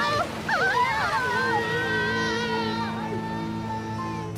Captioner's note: screams